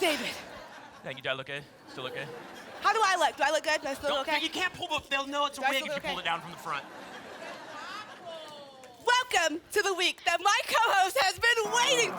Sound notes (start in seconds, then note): 6.4 laughter